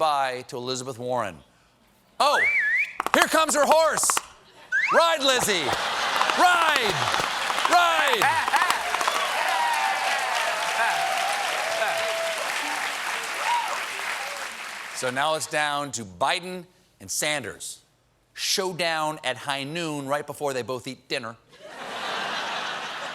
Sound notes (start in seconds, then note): 15.0 cheers and applause